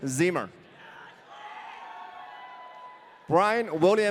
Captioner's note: audience cheering